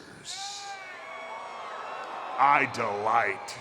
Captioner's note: crowd cheering